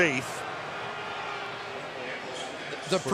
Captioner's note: booing